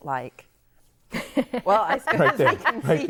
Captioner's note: laughing